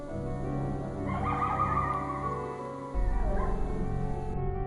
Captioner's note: creature bellowing